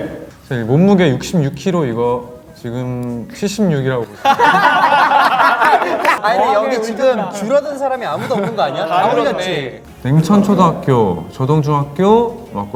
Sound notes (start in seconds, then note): 4.1 laughing